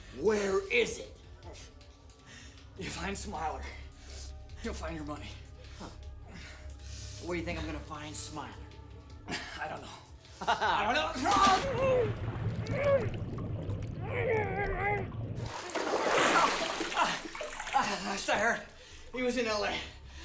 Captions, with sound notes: Where is it? - You find Smiler, you'll find your money. - Huh. Where do you think I'm gonna find Smiler? - I don't know. (Clive laughs) I don't know! Clive! (Don struggles) Last I heard, he was in LA.